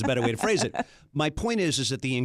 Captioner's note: laughs